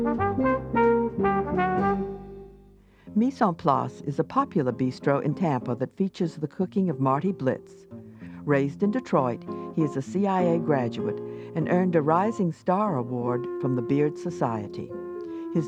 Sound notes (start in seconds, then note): 0.0 bouncy jazz music; 4.0 voiceover